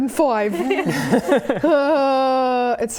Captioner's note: laughing